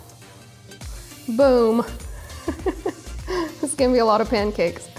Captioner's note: laughs